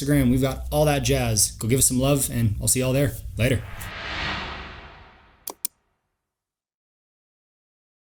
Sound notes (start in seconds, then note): 3.4 logo whooshes; 5.4 mouse clicks